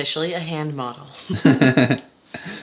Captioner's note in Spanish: los dos ríen